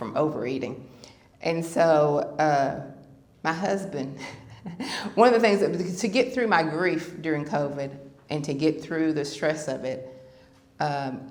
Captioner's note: laughter